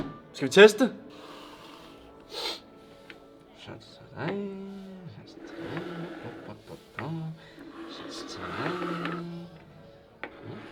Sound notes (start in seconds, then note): 5.3 humming